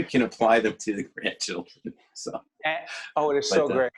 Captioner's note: laughing